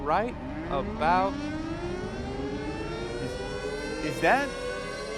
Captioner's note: tornado siren